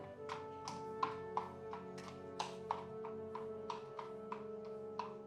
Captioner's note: hooves clopping